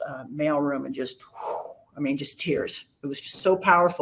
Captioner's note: exhales sharply